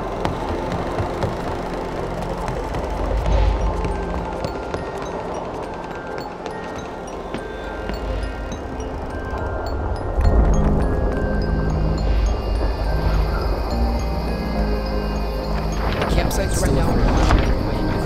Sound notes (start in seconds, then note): 3.1 wind rushing